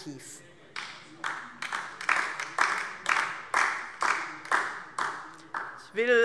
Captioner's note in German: Beifall DIE LINKE - Zurufe